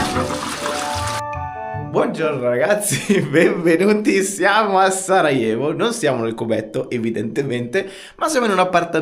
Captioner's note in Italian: Applauso